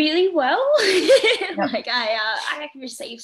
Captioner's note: laughing